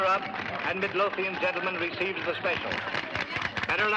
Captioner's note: applause